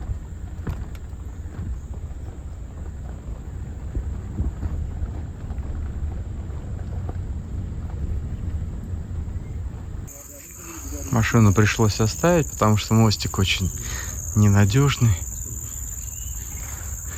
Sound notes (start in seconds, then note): 6.4 footsteps crunching